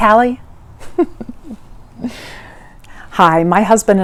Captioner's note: laughs